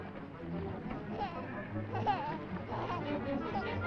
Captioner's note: baby babbling